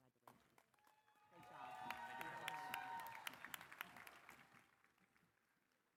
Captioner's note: applause